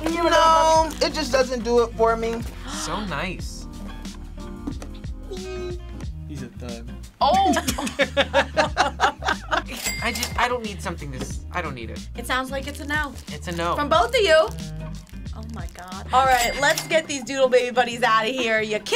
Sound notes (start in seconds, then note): 7.3 both laugh